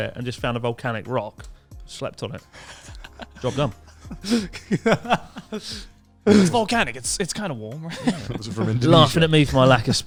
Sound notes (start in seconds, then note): 4.3 laughing quickly